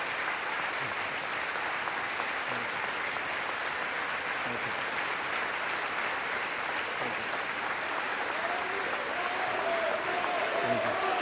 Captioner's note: applause